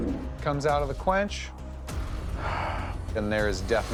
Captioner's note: sighs